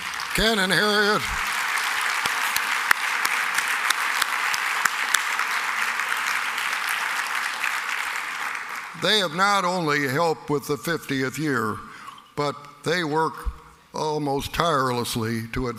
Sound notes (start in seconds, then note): 8.4 applause